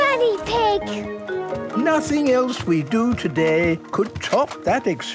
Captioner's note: none